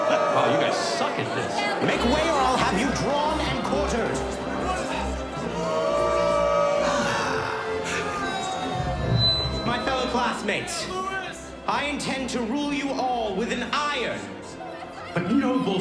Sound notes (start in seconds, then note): 0.0 booing; 5.4 sighs